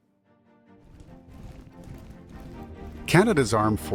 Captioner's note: footsteps patter